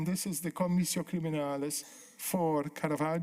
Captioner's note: speaking italian